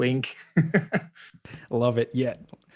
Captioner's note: laughing